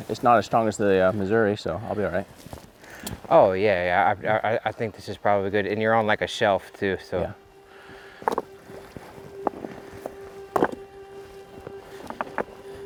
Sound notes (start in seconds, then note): 8.1 rocks clattering